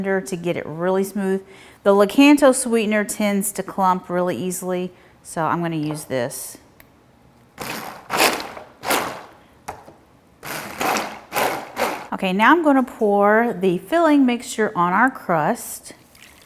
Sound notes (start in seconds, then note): 7.8 mixer whirring